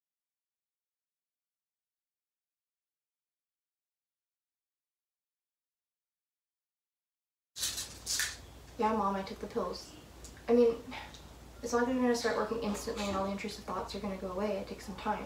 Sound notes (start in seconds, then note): 7.6 pill bottle rattling; 11.1 scoff